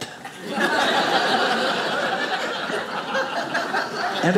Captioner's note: audience laughing